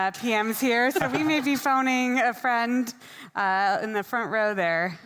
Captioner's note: group laughing